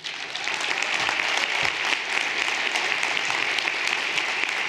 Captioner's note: everyone applauding